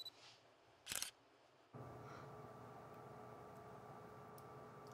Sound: camera shutter clicking

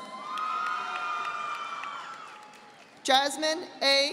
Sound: audience applauding

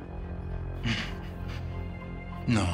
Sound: snickers

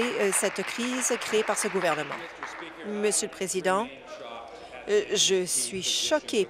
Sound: applause

